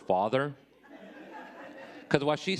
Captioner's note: audience laughing